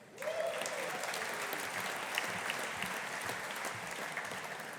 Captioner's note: audience applauding